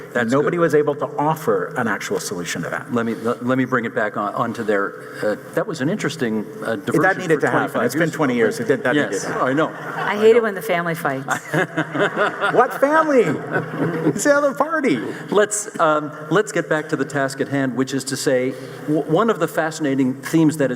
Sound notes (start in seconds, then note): 11.2 audience laughing